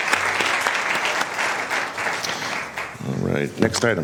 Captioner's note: applause